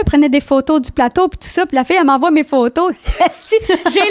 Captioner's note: in french